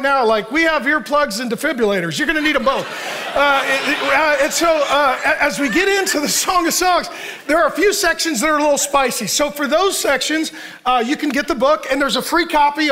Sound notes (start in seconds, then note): 2.2 congregation laughs